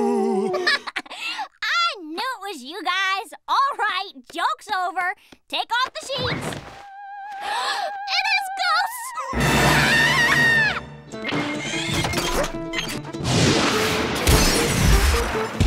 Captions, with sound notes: [laughing] I knew it was you guys. All right, joke's over. Take off the sheets. [gasping] It is ghosts. [screaming]